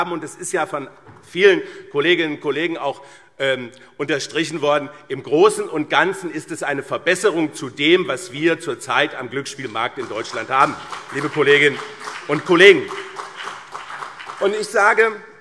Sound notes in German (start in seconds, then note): 9.6 Beifall BÜNDNIS 90/DIE GRÜNEN und CDU